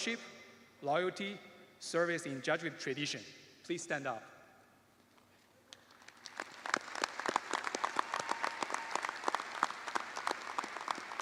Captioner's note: applause